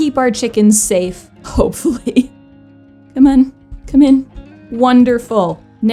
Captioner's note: laughs in desperation